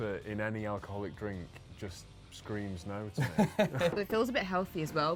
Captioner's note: laughs